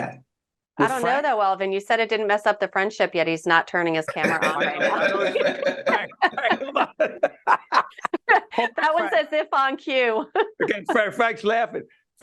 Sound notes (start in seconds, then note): 4.0 laughing